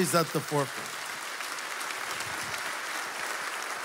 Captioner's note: applause